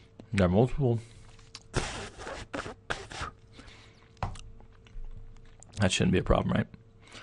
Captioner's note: spitting out sunflower seeds